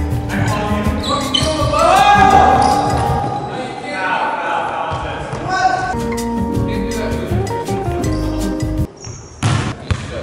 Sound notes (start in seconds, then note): 2.2 yelling; 5.9 mellow music